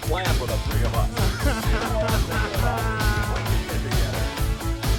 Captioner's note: laugh